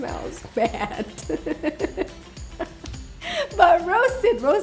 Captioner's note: laughs